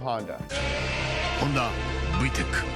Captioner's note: engine roaring sharply